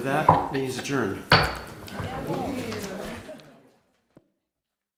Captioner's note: gavel slam, side conversation